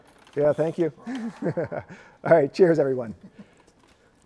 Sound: laughs

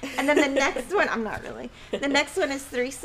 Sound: laughing

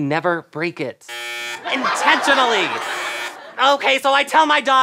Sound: buzzing

